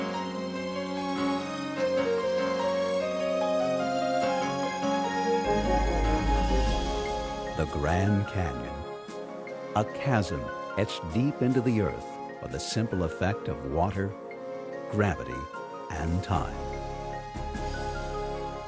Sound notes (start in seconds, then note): 7.7 voiceover